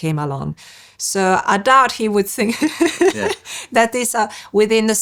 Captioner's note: laughs